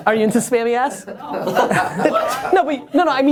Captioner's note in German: Lachen